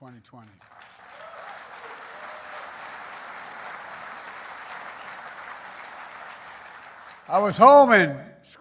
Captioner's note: applause